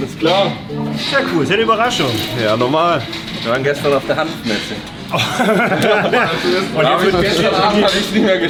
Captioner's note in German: gelächter